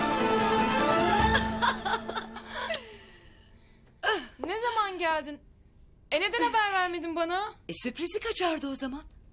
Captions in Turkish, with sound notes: (Gülüyor) Ne zaman geldin? E neden haber vermedin bana? E sürprizi kaçardı o zaman.